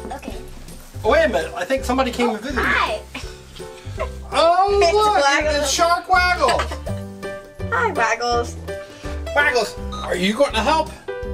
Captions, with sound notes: - Okay. - Wait a minute, I think somebody came to visit you. - Oh, Hi! - Oh my- - It's Waggles. - Shark Waggles! (girl laughing) - Hi Waggles. - Waggles, are you going to help?